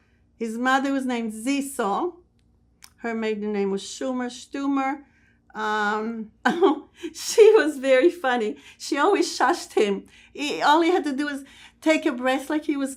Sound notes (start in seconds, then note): 6.1 laughing